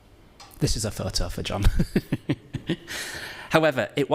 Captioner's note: laughs